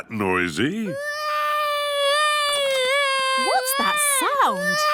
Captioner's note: baby wailing